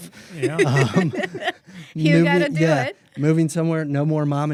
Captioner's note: laughs